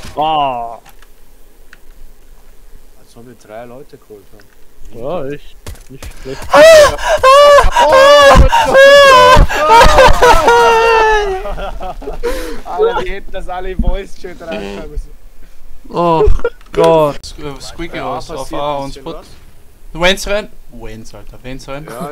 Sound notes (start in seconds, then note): 6.3 moaning in desperation; 11.4 laugh